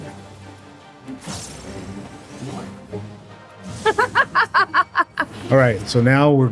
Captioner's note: laughs